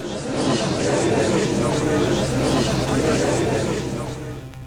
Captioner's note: gallery chattering